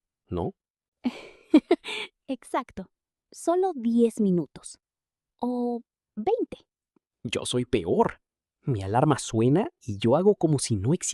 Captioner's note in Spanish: risas